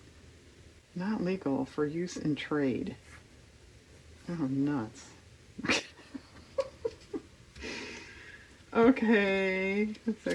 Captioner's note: laughs